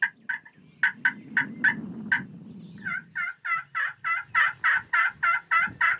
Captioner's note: imitates turkey noises